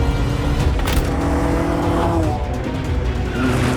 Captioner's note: engine roars